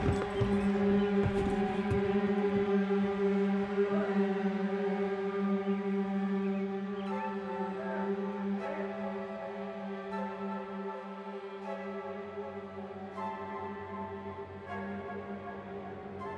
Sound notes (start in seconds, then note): 0.0 footsteps and yelling offscreen; 8.5 suspenseful horror music continues